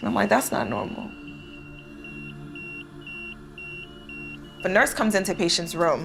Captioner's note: patient monitor beeping